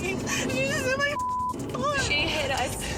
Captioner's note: beeps